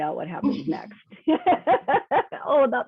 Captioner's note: laughing